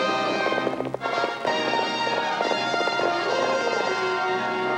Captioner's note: suspenseful music; horses galloping